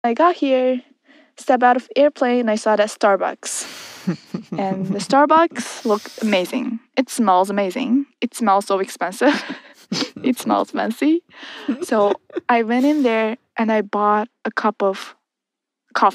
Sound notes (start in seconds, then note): 4.0 chuckles; 11.4 laughs; 11.4 both laugh